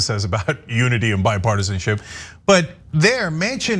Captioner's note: laugh